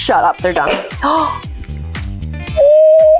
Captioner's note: gasps